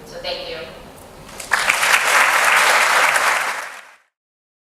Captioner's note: hands clapping